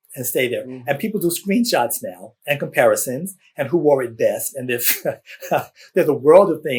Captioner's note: laughs